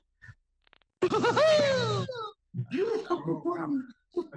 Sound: laughing

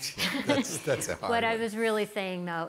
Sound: all murmuring

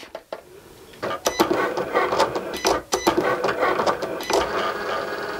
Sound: machine whirring

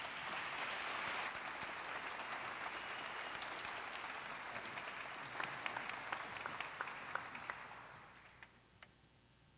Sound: applause

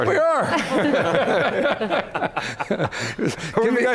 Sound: laughing

